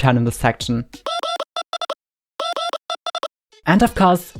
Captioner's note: silly voice